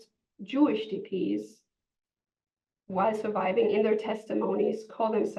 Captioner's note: hebrew